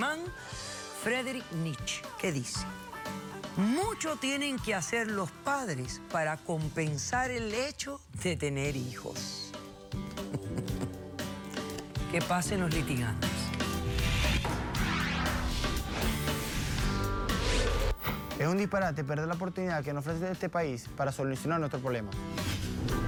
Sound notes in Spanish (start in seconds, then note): 10.1 risas